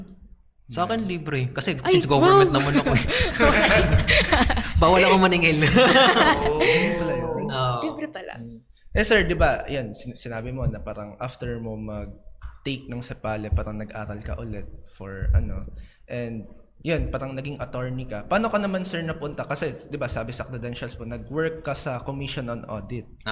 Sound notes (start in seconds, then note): 3.4 laughs